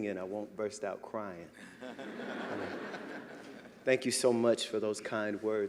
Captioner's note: laughter